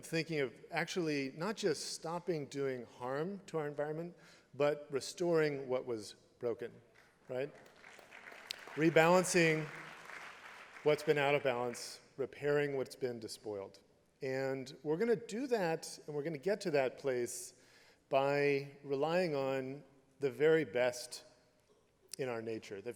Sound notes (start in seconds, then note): 6.9 applause